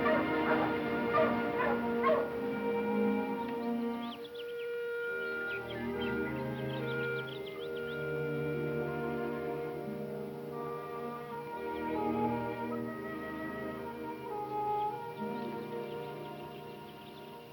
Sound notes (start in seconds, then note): 3.3 birds singing; 3.3 bright music